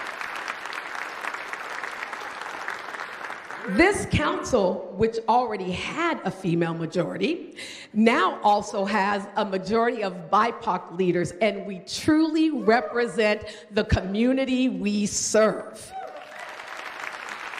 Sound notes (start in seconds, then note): 3.5 applause